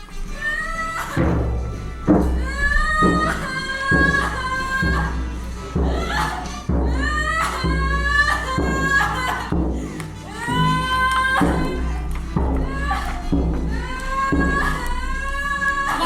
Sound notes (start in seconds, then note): 0.1 drum beating; 0.6 girl crying loudly